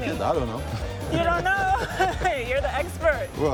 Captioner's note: laughs